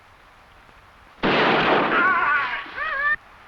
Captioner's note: gunshot blasting; animal calling; warrior groaning